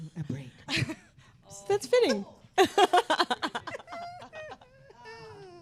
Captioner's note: laughs